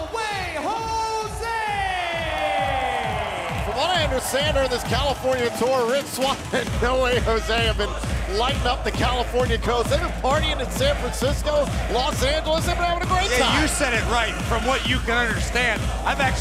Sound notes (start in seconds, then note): 1.6 crowd cheering